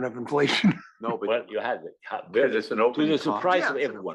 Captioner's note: laugh